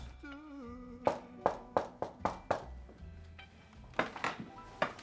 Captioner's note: knocking sound